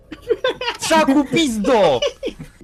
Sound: vile laughter

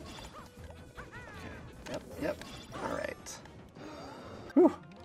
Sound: game player laughing

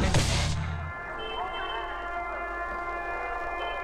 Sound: horn Honking

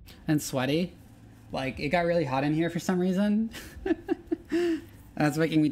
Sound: chuckles

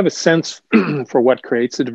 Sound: clears throat

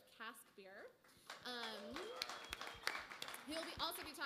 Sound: applause

